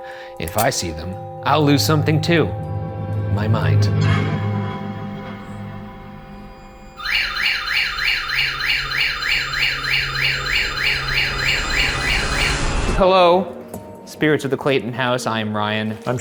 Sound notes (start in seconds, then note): 3.8 suspenseful music; 6.6 EMF wailing; 6.9 REM-Pod beeping